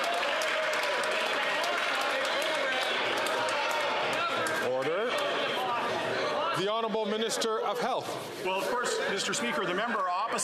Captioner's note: some Applause